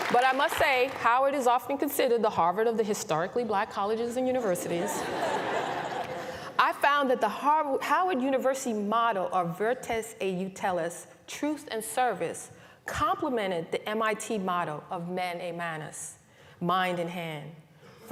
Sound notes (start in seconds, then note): 4.6 laughter